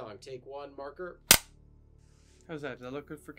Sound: marker slams

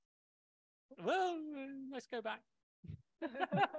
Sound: laughter

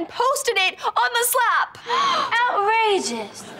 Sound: gasping

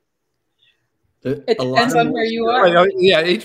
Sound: laughter

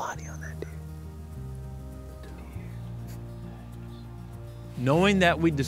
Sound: whispering

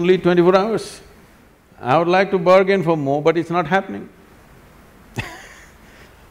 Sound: laughs

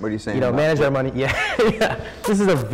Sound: laughs

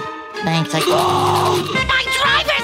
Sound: screaming

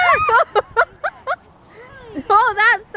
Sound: mom laughing

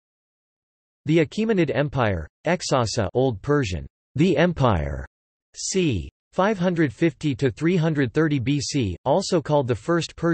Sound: old Persian

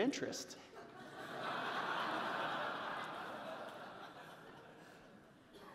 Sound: audience laughing

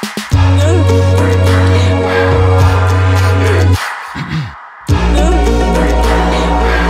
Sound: all crying and gasping; youTuber clears throat

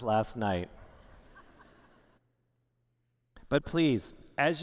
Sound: laughter

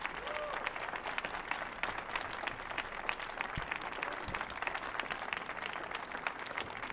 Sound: audience applauding

